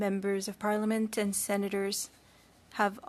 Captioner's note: speaking French